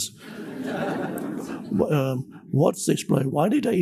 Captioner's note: audience laughs